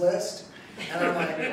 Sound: laughing

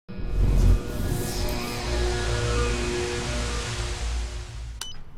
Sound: buzzing sound; beep

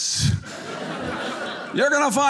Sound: audience laughing

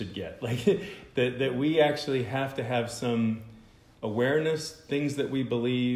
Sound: laughter

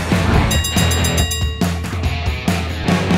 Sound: bell dinging

